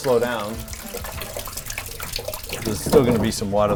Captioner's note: water splashing